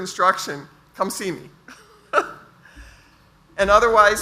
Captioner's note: laughs